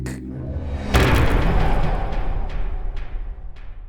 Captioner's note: impact